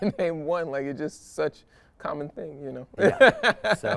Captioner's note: chuckles